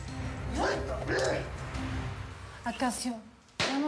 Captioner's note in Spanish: quejidos